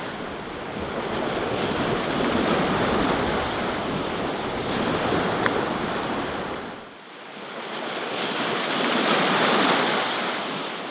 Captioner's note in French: bruit des vagues